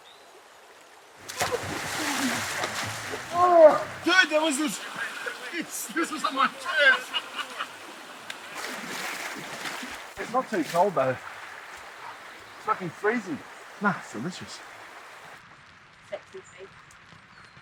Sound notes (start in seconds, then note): 1.3 water splashing; 4.7 mumbling, laughing